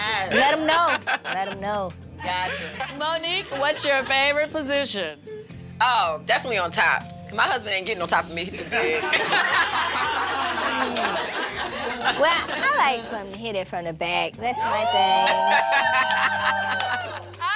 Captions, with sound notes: - Let him know, let him know. - Gotcha. Monique, what's your favorite position? - Oh, definitely on top, my husband ain't getting on top of me, he's big. - [laughing] - What about you, Tiny? - Well, I like when he hit it from the back, that's it. - [cheering]